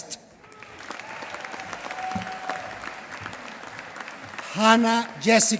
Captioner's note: applause